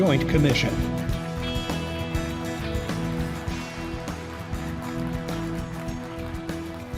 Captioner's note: upbeat music; audience applauding